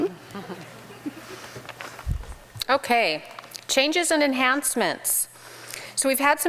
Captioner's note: laughs